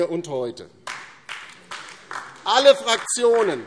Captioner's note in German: Beifall DIE LINKE